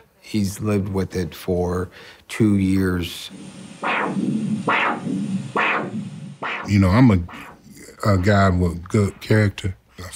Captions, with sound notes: He's lived with it for two years. [machine whirring loudly] - You know, I'm a guy with good character.